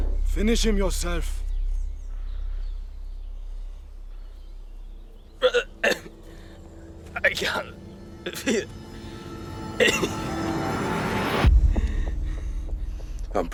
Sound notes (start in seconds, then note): 0.0 dramatic music; 3.2 birds chirping; 11.3 dramatic music